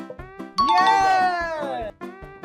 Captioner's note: ding sound